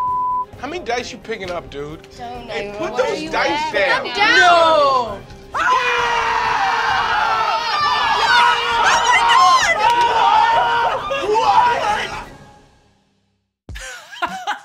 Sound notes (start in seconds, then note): 0.0 beeping; 5.5 group screaming; 5.5 screaming